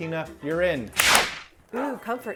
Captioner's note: slap